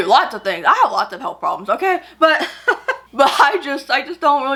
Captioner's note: laughs